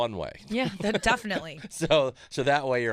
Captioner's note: Judah laughing